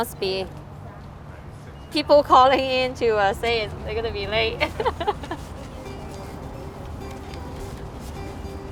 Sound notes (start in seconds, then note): 4.6 laughs; 5.3 mellow music